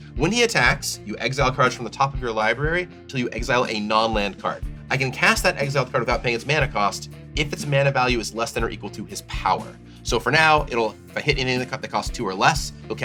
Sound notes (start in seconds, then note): none